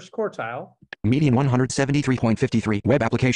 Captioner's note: voiceover